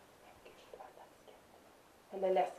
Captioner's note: whisper